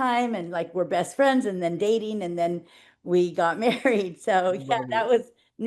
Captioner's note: giggling